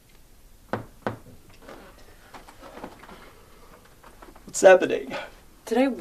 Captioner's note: knocking on wall